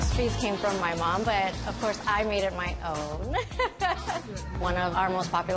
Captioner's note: laughs